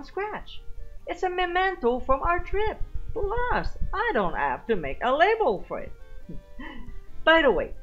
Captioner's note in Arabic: تضحك